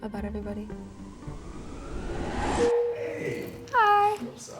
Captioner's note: cyclone whirling